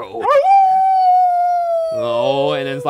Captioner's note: howling